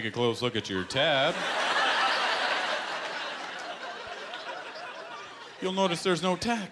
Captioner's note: laughter